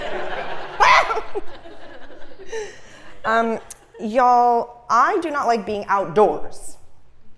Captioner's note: laugh